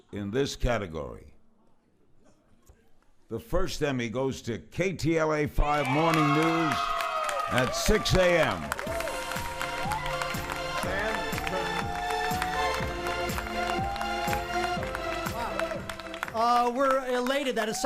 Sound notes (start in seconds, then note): 16.1 cheering and applauding